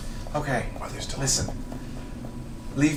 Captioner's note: whispers